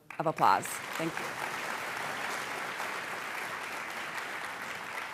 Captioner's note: applause